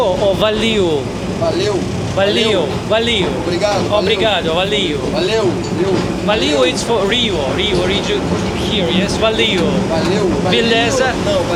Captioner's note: speaking Portu-glish like a pro